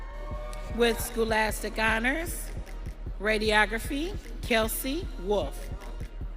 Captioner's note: audience cheering